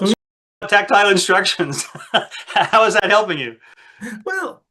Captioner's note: laughs